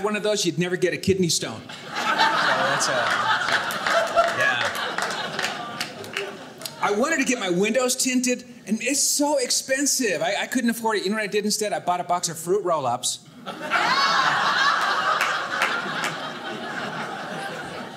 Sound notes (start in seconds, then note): 1.7 audience laughing; 13.3 audience laughing